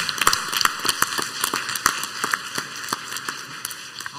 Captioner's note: clapping